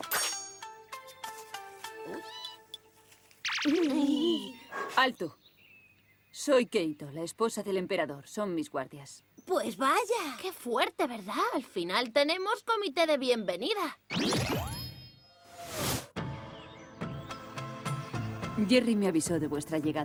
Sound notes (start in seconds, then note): 1.8 gasp